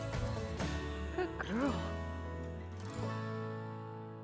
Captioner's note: affectionately to cow